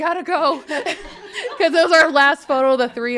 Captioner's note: people laughing